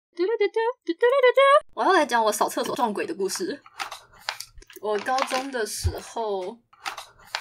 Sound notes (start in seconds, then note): 4.6 chips crunching